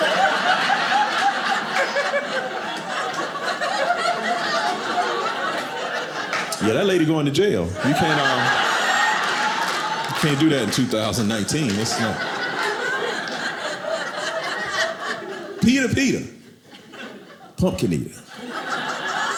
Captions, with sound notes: (audience laughing) Yeah, that lady going to jail. You can't— (audience laughing) You can't do that in 2019. (audience laughing) Peter Peter, pumpkin eater,